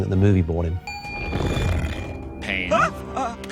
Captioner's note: bell dinging